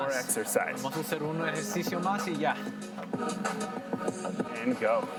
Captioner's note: in foreign language